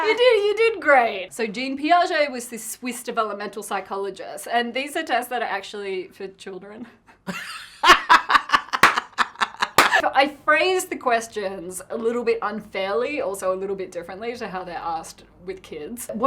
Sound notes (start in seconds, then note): 7.2 laughter